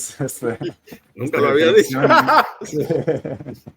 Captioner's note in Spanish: Risas